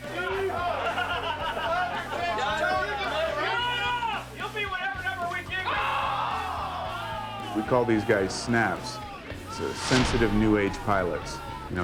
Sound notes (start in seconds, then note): 0.6 group laughing and chattering; 6.5 man shouts